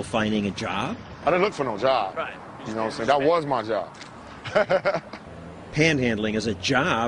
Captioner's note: laughter